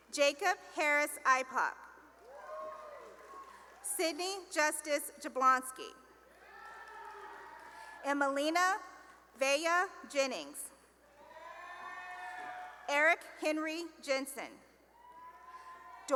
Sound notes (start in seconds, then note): 2.2 cheering; 6.3 cheering; 11.3 cheering; 14.9 cheering